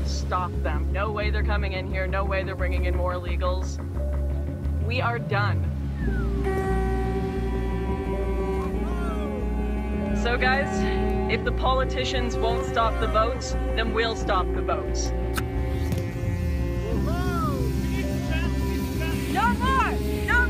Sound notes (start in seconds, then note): 6.0 boat horns honking; 17.3 chanting